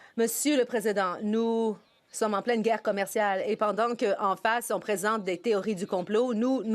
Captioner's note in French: voix de l'interprète